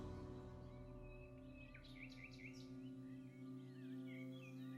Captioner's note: birds chirping